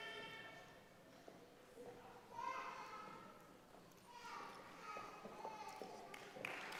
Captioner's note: applause